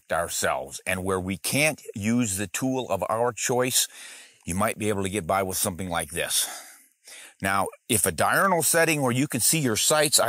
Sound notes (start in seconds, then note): none